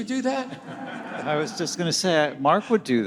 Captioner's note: audience laughing